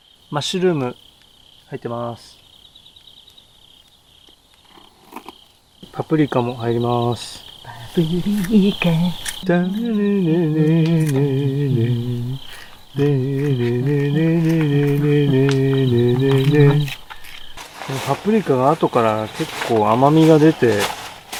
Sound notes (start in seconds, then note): 8.0 humming the song